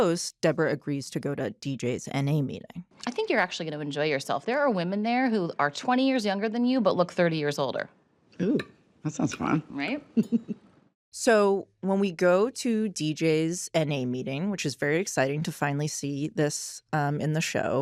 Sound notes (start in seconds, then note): 10.1 chuckles